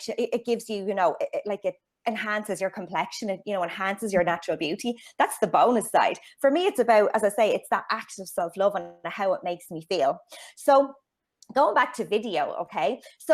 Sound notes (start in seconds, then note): none